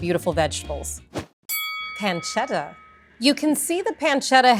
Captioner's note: bell rings